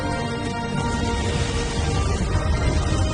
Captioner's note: explosions booming; epic music